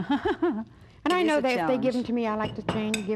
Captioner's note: laughing